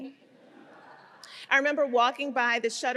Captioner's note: audience laughing